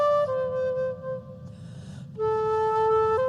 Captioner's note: none